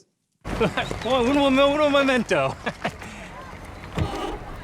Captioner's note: chuckles